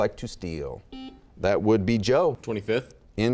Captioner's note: buzzes